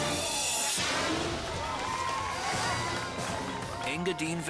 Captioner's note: crowd cheering